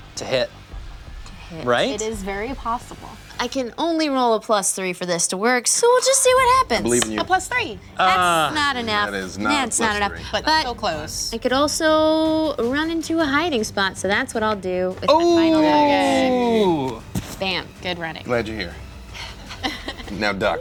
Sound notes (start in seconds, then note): 15.5 shouting; 19.4 laughter